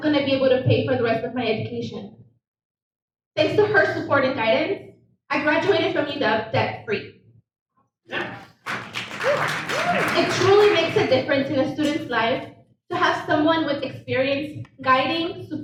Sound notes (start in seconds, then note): 8.1 audience applauds